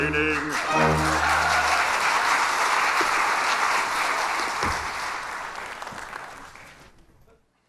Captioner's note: applause